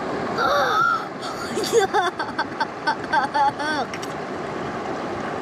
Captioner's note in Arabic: يضحك